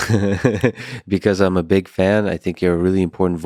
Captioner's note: laughing